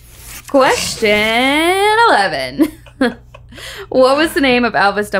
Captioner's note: laughing